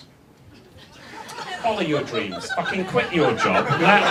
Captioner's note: audience laughs